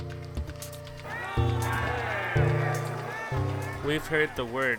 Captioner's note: crowds yelling